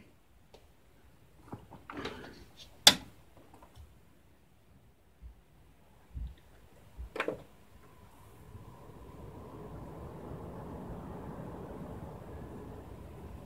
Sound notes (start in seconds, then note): 2.6 click